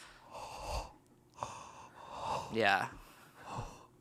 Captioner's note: breaths heavily